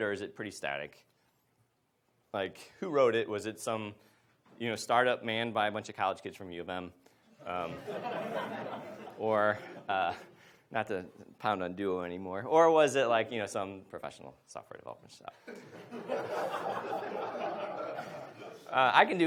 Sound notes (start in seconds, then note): 7.6 audience laughs; 15.4 audience laughs